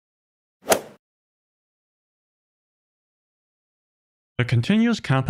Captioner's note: golf ball hit sound effect